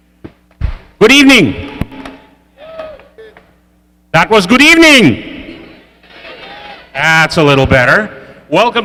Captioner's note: applause